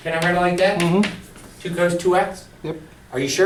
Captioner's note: voiceover